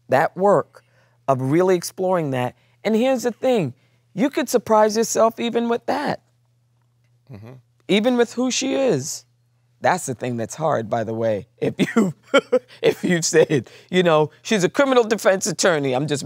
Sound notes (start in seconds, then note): 11.8 laughs